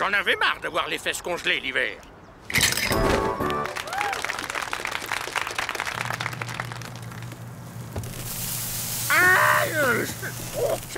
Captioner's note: applause